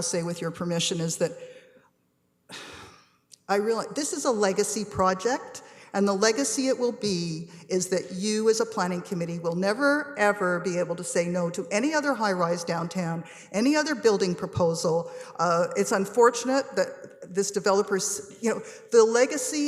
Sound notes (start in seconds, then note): 2.5 sighs